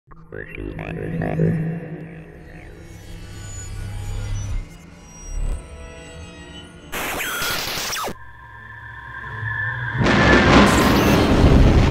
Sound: sound Effects

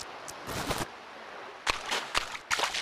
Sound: footsteps

